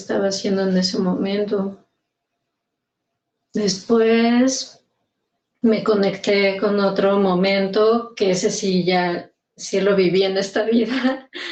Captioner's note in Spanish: risas